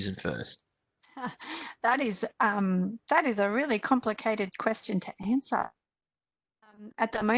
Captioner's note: chuckles